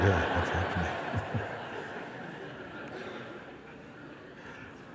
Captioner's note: laughter